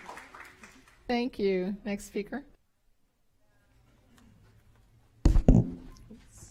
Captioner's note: applause